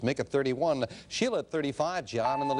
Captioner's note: bell ringing